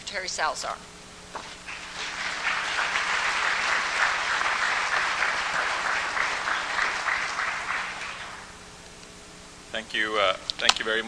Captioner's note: applause